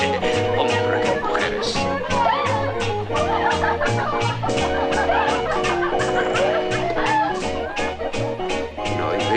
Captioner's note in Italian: risate